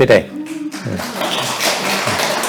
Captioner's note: applause